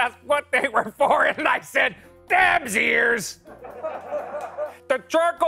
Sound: laughter

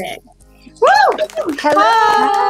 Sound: cheering

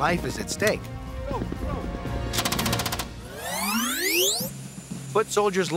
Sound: gun shot

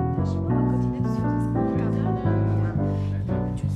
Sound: people chatting

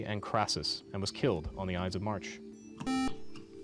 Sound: buzzer

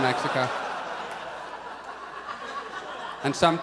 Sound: audience laughs

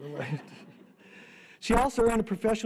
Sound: audience laughter

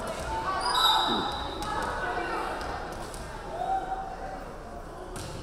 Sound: referee whistling

